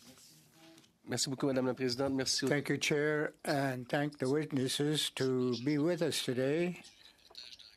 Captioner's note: speaking French